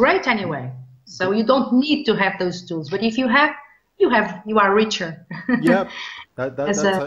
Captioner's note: chuckles